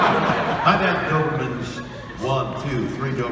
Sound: audience laughing

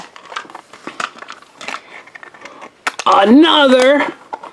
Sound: egg clatters

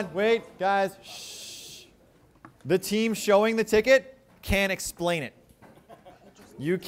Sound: shushing

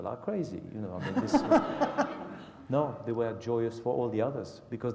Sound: laugh

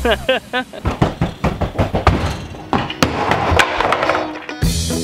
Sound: knocking; upbeat music

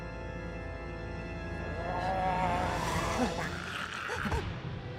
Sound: gurgling

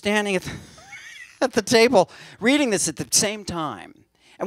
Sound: laughs

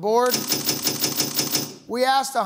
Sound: panels clicking

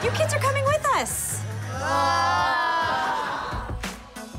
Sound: all sighing

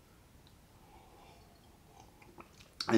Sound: sips tea

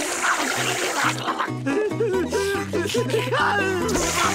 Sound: whimpering

